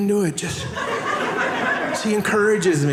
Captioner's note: audience laughing